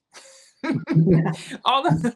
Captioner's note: laughter